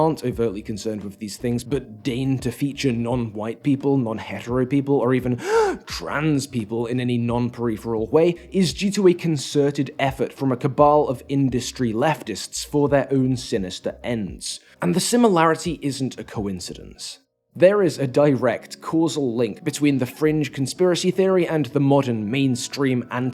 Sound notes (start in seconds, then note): 5.4 gasp